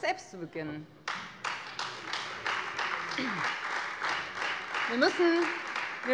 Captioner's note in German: Beifall Freie Demokraten und vereinzelt AfD